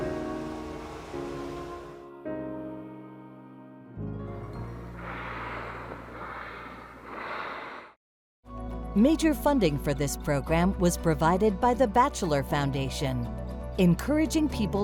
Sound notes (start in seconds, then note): 1.1 drone whirring; 5.0 water spraying